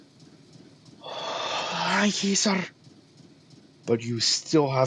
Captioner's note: exhale of relief